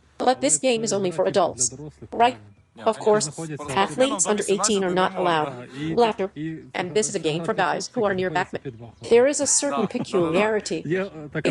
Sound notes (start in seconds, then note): 5.9 laughter